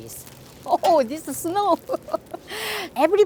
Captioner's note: laughs